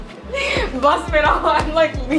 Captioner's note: laughs